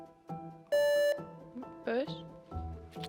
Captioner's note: buzzer beeps